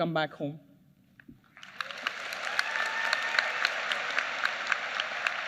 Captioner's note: applause